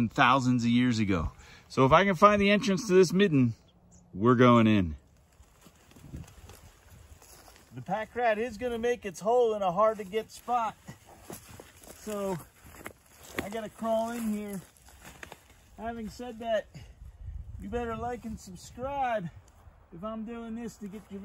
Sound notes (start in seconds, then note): 4.9 leaves rustling